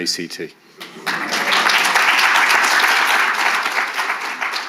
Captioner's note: audience applauding